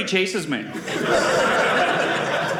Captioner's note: audience laughing